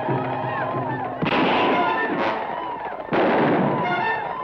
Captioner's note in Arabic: اطلاق النار بالبنادق